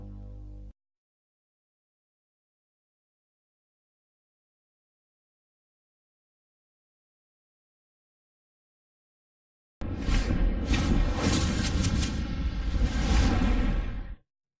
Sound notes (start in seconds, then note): 3.3 silence; 9.8 digital dramatic sounds